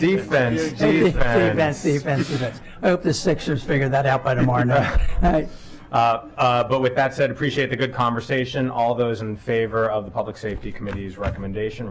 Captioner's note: laughter